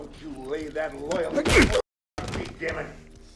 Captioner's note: punch thuds